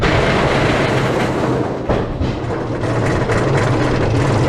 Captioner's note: clunk; anti-Rollbacks Clank